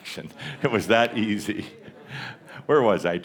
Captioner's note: Adamus chuckles